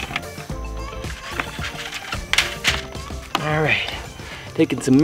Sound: rattling

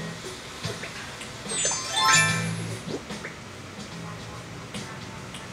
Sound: chimes as outfit changes

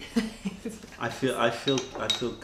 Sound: laughter

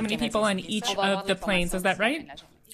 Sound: speaking French

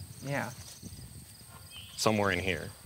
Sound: wind rustling

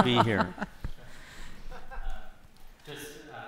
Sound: laughter

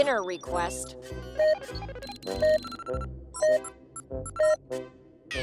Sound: beeping

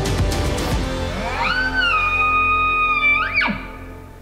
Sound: caller bugling

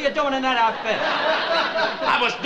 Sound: audience laughs

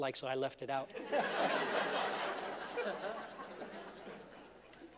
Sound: laughter

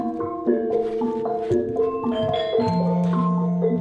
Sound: syncopated metallic sounds

